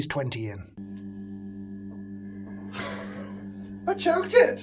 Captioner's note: machine humming